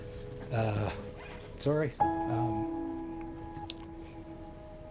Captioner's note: voice wavers